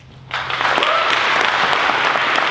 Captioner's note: applause